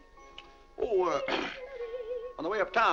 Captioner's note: clears throat